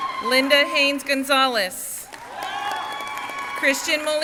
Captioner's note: crowd cheering and applauding